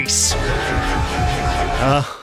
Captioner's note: in-game sound effects